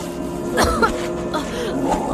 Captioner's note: coughs